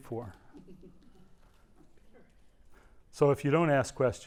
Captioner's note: laugh